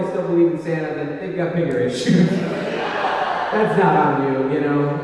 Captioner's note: laughs